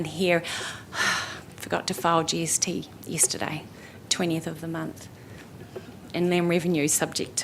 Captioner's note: sighs